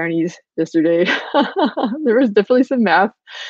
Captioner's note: laughing